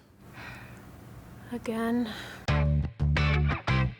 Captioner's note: sighing; upbeat funky music